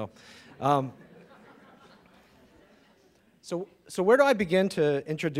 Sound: audience laughing

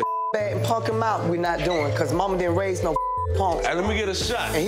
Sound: beep; beep

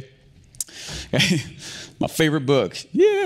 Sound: laughs

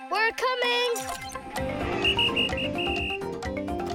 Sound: whistling

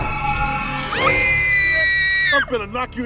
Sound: screams

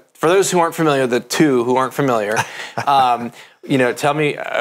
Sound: laughs

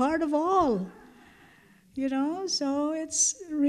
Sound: laughter

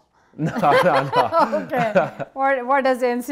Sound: laughs

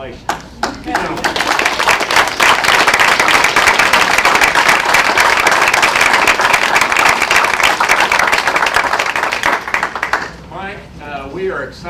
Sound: applause

